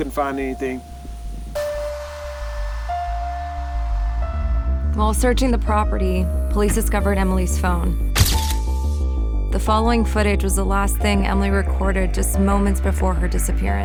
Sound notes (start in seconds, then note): 0.3 mysterious music; 8.2 shutter flashing